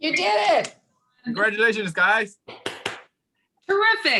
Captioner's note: applauding